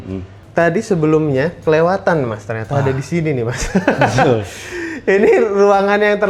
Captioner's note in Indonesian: tertawa